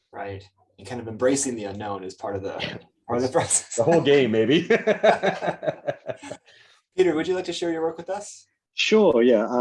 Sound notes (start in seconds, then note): 4.6 chuckles; 4.6 laughing